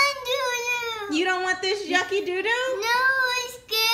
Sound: voiceover

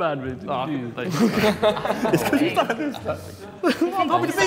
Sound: Sidemen laughing

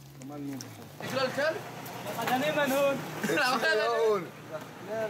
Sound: Arabic spoken audio

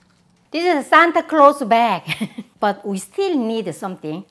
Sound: laughs

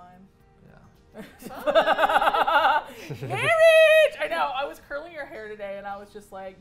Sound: laughs

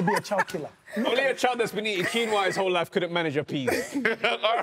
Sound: everyone laughs

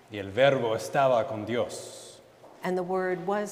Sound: speaking in Spanish

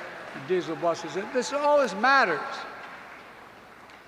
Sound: applause

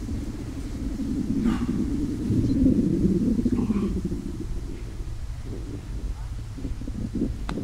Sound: grumbling intensifies

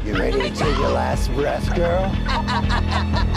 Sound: raspy Voice; demon laughs maniacally

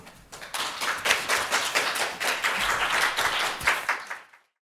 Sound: audience applauds

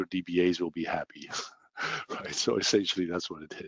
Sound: laughing

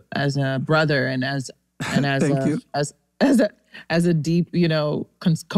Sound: laughs

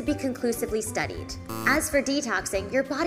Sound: buzzer buzzing

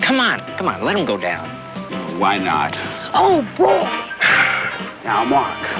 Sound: sighs

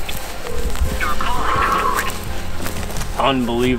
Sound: computer Voice

